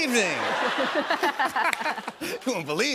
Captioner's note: laughter